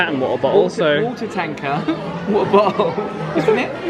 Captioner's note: laughs